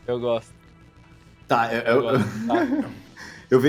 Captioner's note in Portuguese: Risada